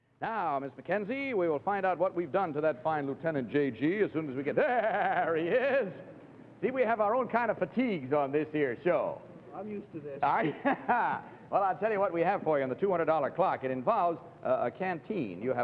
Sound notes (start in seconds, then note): 10.2 chuckles